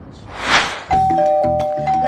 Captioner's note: ding-dong